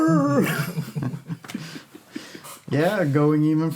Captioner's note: laughter